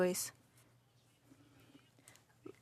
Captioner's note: speaking French